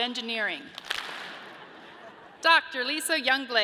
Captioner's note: audience claps and laughs